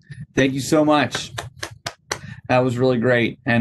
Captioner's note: clapping